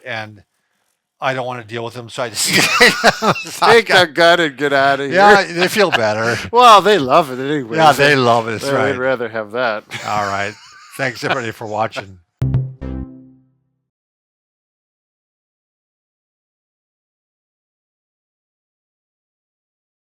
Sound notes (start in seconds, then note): 2.5 both laugh; 9.9 laughs; 12.4 electronic tones